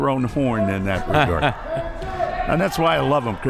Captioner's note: laughs